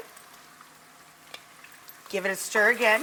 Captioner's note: food frying